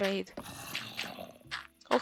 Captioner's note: zombie noise